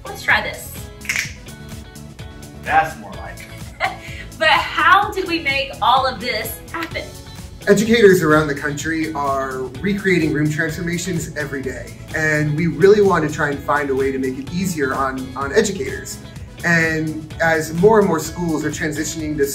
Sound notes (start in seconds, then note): 1.0 snapping; 2.3 upbeat music; 3.2 laughs